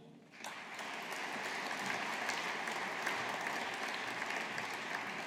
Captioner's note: audience applauding